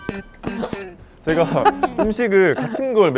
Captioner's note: half air, half sound